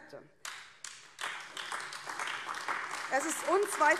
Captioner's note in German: Beifall AfD